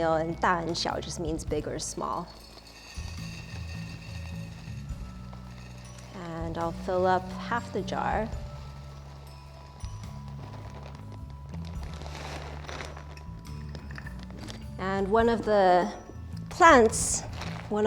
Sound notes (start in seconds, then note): 9.4 soft music; 11.8 bag crinkling